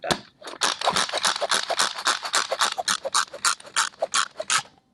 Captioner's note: processor chopping